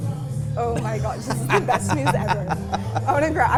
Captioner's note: laughs